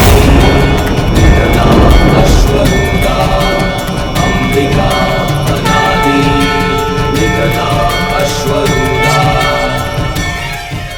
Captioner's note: sanskrit shlok